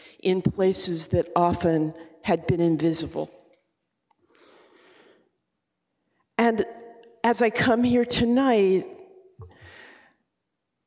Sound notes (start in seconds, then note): none